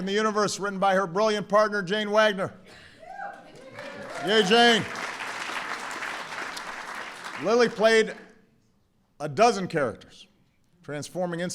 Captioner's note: applause